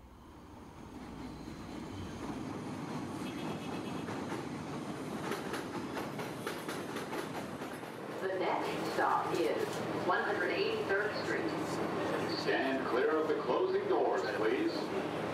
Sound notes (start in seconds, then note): 0.3 sound of Train approaching; 7.7 train Conductor voice